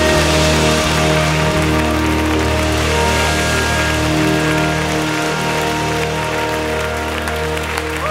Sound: audience applause

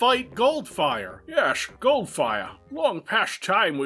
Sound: Connery impersonation

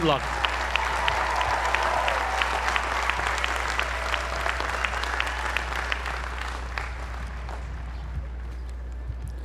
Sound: applause

